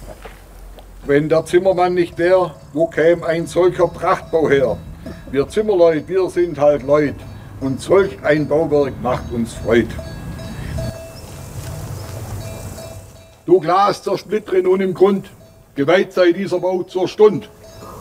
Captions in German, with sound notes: Wenn der Zimmermann nicht wäre, wo käme ein solcher Prachtbau her? Wir Zimmerleut', wir sind halt Leut'. Und solch ein Bauwerk macht uns Freud'. (Kuhglocken) Du Glas, zersplittere nun im Grund. Geweiht sei dieser Baum zur Stund'.